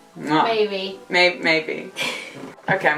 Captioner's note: laughs